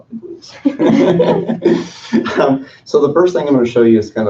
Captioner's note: board members laugh